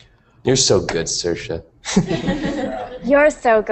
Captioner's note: risas